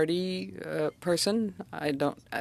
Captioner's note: speaking French